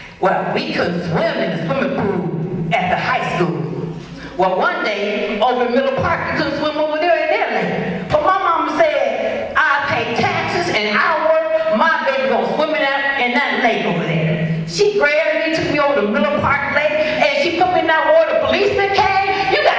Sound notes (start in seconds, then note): none